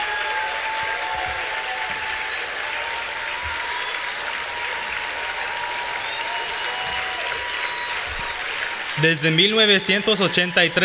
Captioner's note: Aplausos; applause